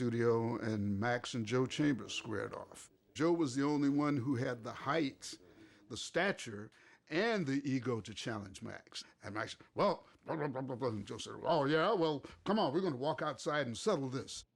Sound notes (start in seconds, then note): 9.5 grumbles